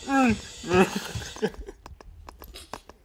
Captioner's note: laughter